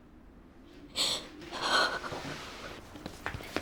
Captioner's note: crying